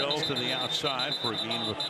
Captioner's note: whistle